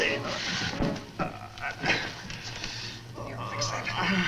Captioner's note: Mario groans